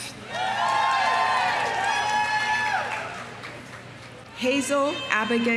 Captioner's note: audience cheering; audience applauding